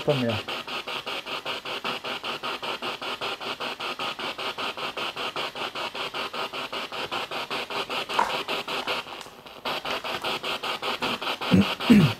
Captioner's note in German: Noise of the spiritbox in the background